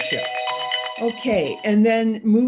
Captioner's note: alarm ringing